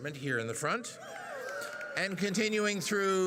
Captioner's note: audience cheers and applauds